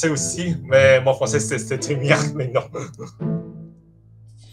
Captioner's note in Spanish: francés; francés